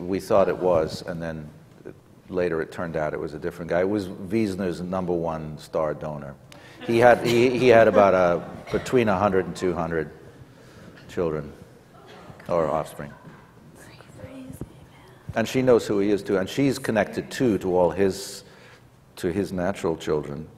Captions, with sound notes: We thought it was and then later it turned out it was a different guy. It was Weisner's number one star donor. (laughter) He had about, between 100 and 200 children, or offspring. And she knows who he is too and she's connected too to all his, to his natural children.